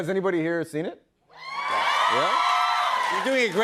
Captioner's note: cheers and applause